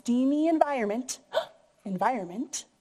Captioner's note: gasps